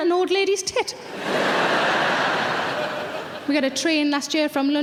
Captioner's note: audience laughs